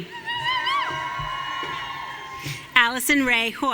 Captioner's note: audience cheering